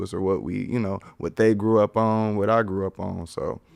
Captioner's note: none